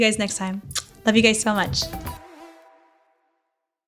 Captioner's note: lips smacking